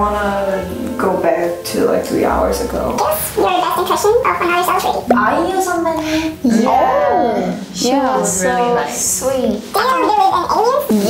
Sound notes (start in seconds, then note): 5.3 speaking Korean